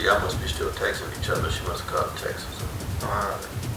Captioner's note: recording plays